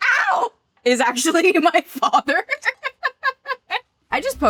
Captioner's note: laughs